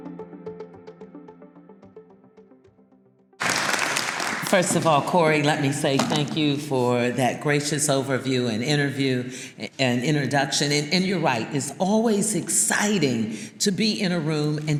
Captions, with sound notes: (uplifting instrumental music) (audience applauding) - First of all, Corey, let me say thank you for that gracious overview, and interview, and introduction and you're right, it's always exciting to be in a room